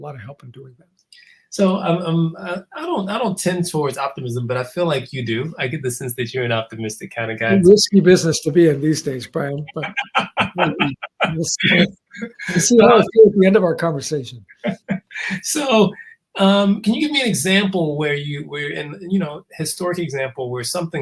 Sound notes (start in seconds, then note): 9.4 laugh